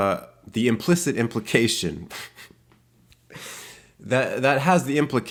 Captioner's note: laughs